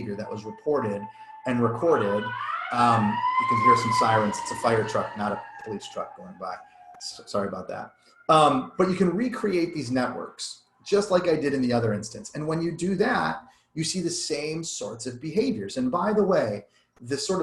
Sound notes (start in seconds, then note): 2.1 siren wails louder